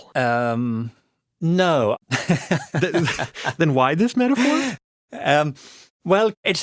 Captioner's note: laughs